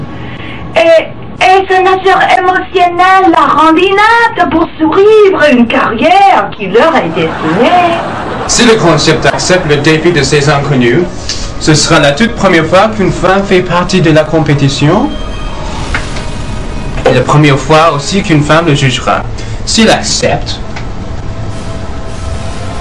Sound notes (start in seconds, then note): 6.9 audience laughing; 14.8 slurps